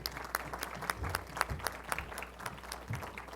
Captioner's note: applause